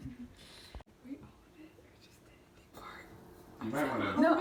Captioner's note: whispers